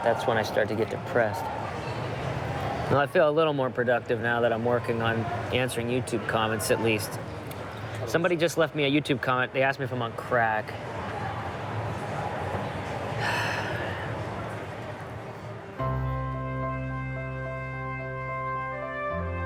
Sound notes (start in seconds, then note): 13.2 sighing; 16.7 light music